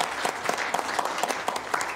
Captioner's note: applause